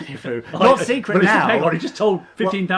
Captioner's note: laughing